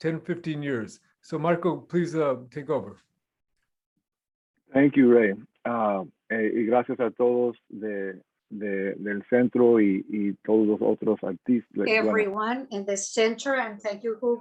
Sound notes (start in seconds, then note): 8.3 non-english speech